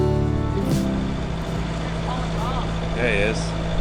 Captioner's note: engine runs